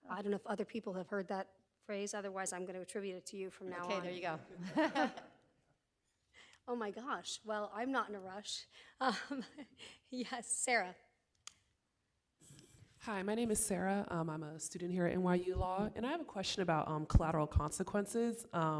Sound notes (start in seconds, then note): 4.5 audience laughing; 9.0 laughs